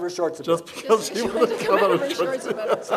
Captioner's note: laughing; laughs